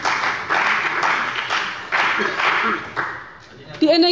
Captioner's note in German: Beifall bei dem BÜNDNIS 90/DIE GRÜNEN und der CDU